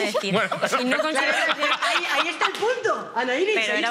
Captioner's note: they all laugh